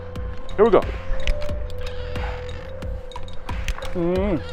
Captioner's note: ascender creaking